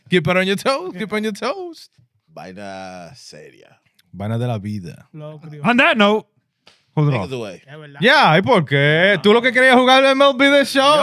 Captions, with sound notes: Keep it on your toes, keep it on your toes. Bida seria. Bida de la vida. On that note. Yeah, (Speaking In Foreign Language)